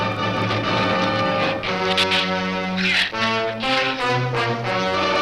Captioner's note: shrews chatter